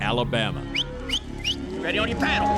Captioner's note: whistling